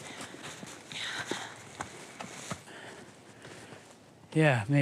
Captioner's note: heavy breathing